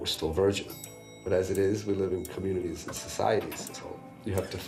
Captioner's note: elevator bell dings